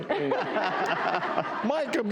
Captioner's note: audience laughs